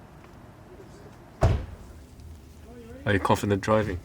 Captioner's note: door slams